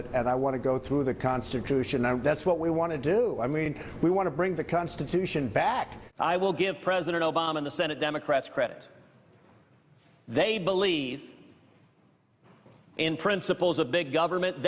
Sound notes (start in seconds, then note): none